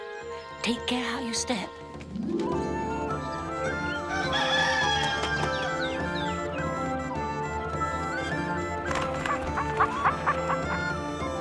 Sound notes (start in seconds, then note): 4.1 cock crows; 8.8 squawking